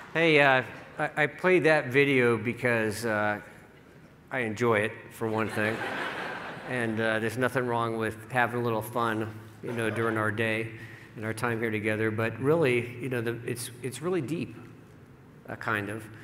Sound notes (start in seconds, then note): 5.9 laughing